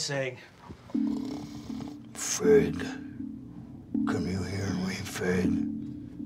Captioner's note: growls